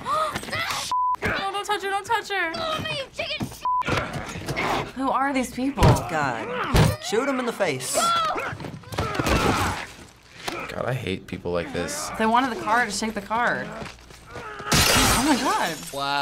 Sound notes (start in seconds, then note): 6.0 grunting; 7.0 Joel grunts